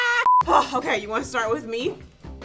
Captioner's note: laughs; beep